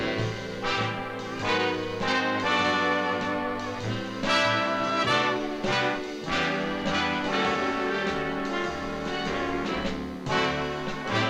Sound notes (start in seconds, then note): none